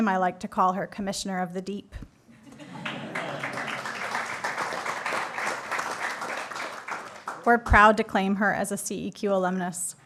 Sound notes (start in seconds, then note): 2.6 applause